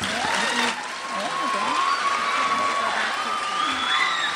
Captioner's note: crowd cheers